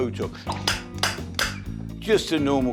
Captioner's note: wood clapping